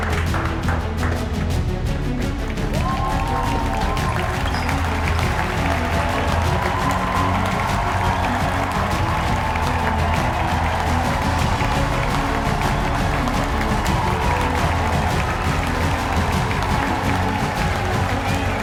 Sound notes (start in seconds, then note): 0.1 upbeat music continues; 2.6 audience cheers and applauds; 9.8 audience cheers and applauds; 9.8 upbeat music continues